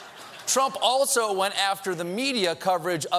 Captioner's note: laughter